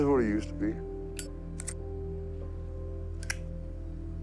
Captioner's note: lighter clinks and scratches; lighter clacks